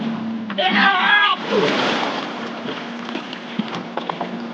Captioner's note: Jake screaming